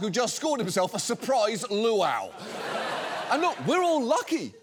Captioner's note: studio audience laughing